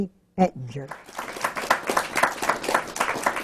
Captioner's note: applause